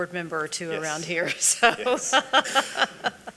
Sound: laughs

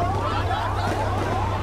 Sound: sirens, gunfire

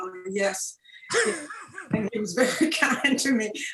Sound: both laughing

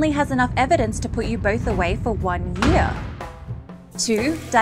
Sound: door slamming

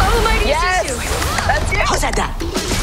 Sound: grunts

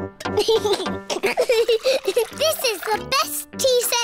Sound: giggles

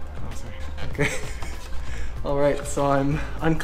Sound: laughs

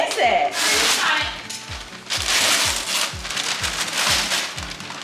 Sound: paper rustling

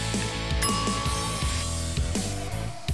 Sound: rock music continues; bell ringing; rock music continues

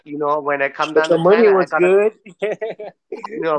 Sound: jokingly

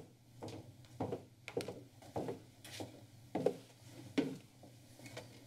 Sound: footsteps

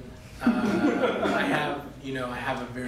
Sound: laughter

